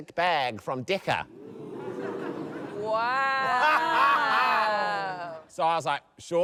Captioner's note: laughter